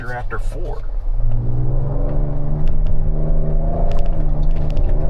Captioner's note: engine rumbling